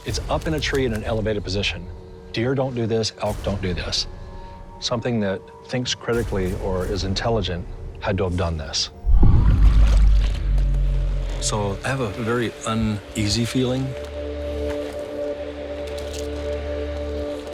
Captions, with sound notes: It's up in a tree in an elevated position. Deer don't do this. Elk don't do this. Something that thinks critically or is intelligent had to have done this. [LOW GROWLING] So I have a very uneasy feeling.